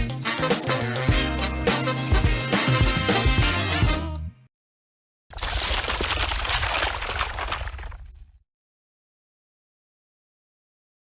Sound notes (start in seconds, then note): 5.3 glass breaking